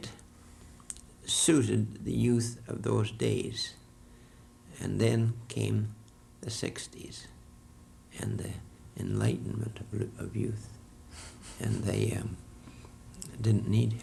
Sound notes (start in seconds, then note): 10.9 laughter